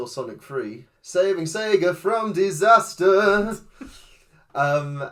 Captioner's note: sing-songy; amused chuckle